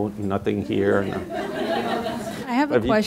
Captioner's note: audience laughing